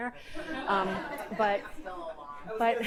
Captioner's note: audience laughing